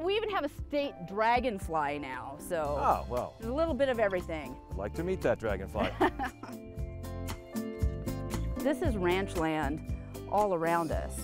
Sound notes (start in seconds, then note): 5.8 laughing; 6.9 lighthearted guitar music